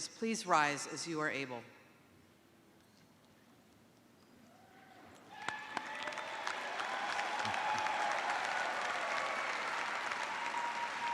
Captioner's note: cheers and applause